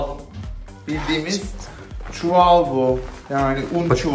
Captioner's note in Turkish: fısıldayarak